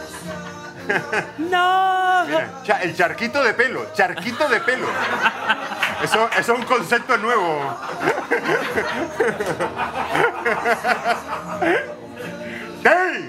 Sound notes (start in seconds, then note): 0.0 laughs; 8.1 laughs